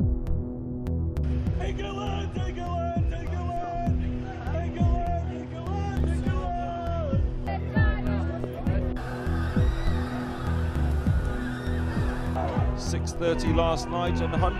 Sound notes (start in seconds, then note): 1.7 yelling